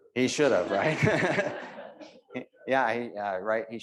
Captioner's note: audience laughing